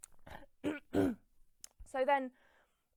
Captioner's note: clears throat